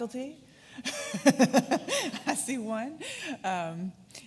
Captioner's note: laughs